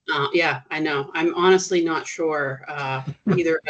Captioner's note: chuckling